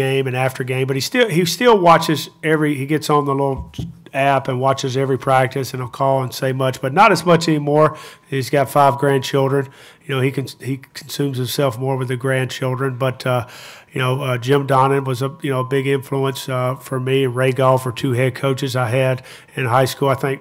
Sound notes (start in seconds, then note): none